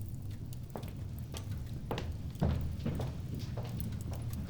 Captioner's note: footsteps clicking